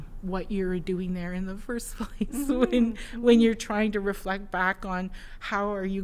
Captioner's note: laughs